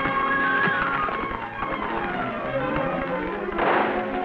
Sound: Champion whinnies

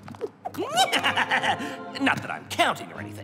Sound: snickers

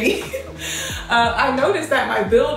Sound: laughs

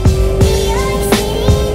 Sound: engine revs

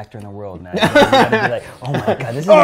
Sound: laughs

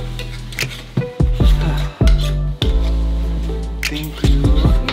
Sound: bright music; sighs

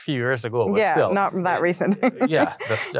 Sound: laughs

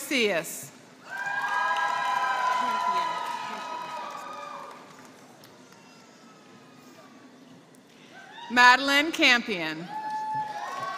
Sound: applause; applause

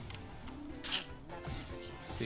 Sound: tsk

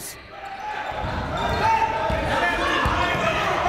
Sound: chatter

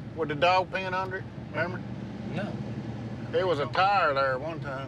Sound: none

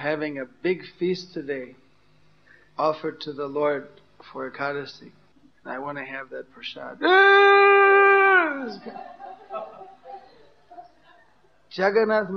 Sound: crying sound

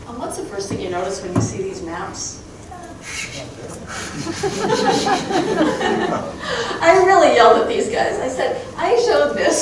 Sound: crowd laughing

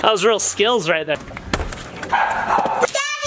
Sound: dogs barking

